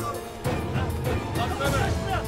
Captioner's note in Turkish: Bağrışma sesleri